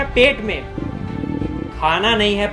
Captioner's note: stomach growls in acknowledgment